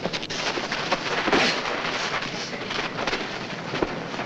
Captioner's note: men scuffling